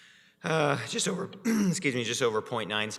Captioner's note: clears throat